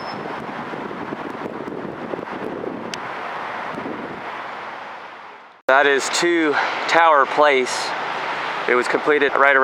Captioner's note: traffic noise